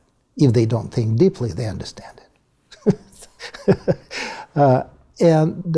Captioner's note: laugh